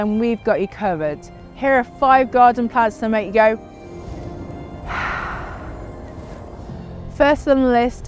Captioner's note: inhales deeply